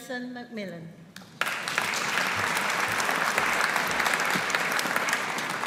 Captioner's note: audience applauding